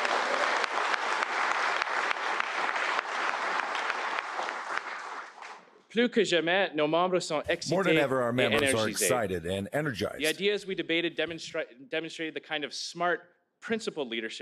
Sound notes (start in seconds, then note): 5.0 applause; 12.1 speaking french